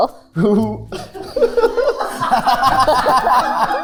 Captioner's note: chuckles; group laughing; playful music